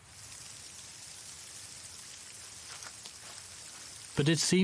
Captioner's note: icy rain tapping